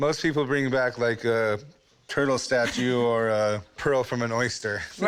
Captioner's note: laughs